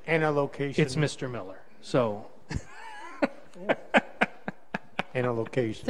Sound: laughs

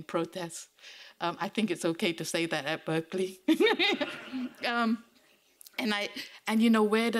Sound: laughing

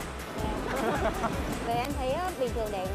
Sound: laugh

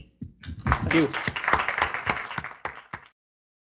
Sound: clapping

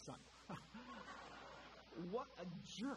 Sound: audience laughter

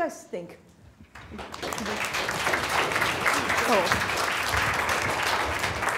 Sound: applause

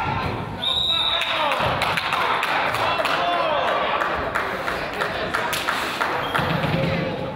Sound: whistle blows; crowd applauds

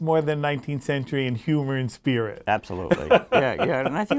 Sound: laughs

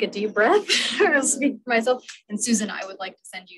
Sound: giggles

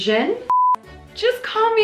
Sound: beep

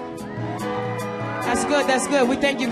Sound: audience cheers

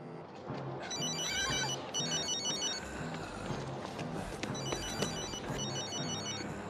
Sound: dial tone hums; phone ringing; screaming

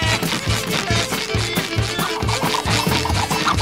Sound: moaning

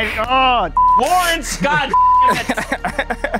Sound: laughing

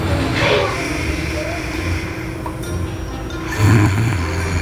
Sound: child snoring

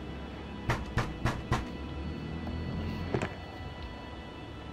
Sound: loud knock on door

